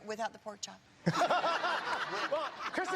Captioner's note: laughter